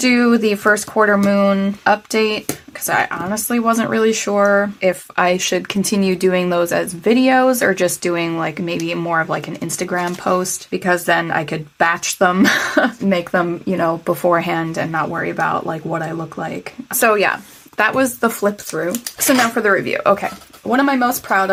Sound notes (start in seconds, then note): 12.4 laugh